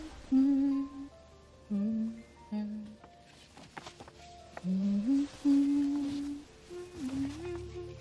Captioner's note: hummingng ' '; humming